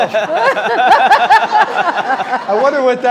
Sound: audience applauding

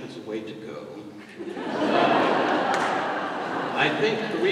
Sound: laughter

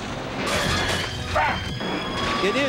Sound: shouting

